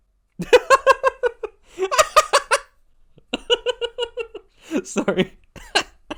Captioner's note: unrestrained laughter